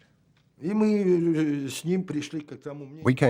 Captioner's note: speaking Russian